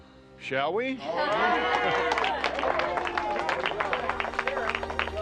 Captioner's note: group cheering